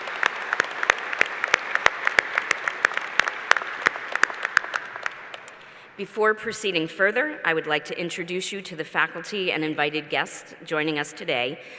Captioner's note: applause